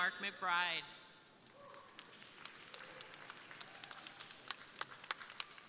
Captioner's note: crowd applauding